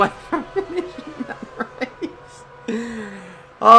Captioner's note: laughs